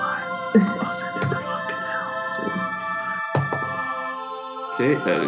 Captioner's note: whispers